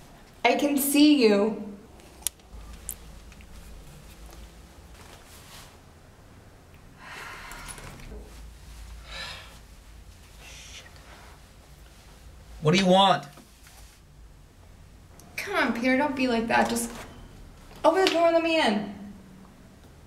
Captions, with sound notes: I can see you (sigh) (sigh) What do you want? Come on Peter Don't be like that. Just open the door and let me in.